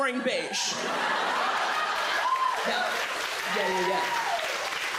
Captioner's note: audience laughs, cheers, claps